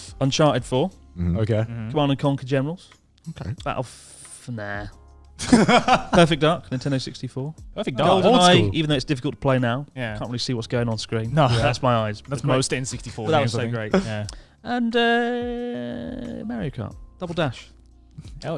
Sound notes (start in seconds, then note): 5.4 laughing quickly